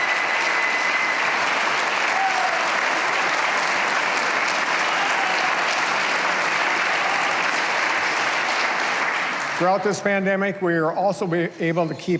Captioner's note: cheers and applause